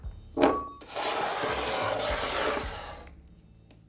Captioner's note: bowl sliding